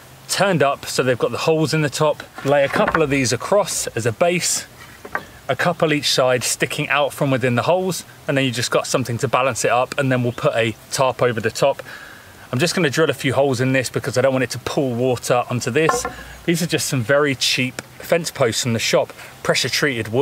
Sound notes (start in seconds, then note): none